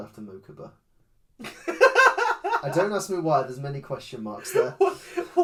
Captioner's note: laughs